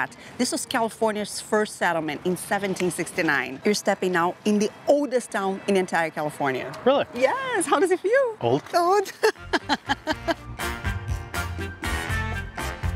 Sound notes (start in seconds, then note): 9.0 laughs